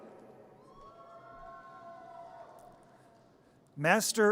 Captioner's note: audience cheers